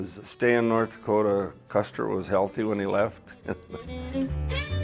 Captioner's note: laughs